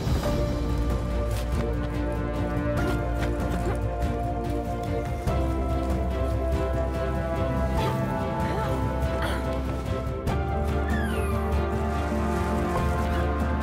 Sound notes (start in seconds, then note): 0.1 soaring music playing; 3.4 climbing gear rustling